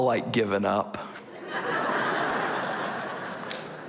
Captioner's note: laughter